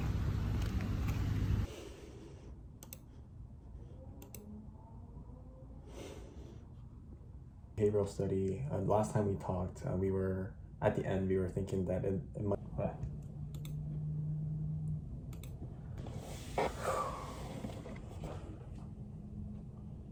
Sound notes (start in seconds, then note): 16.1 phew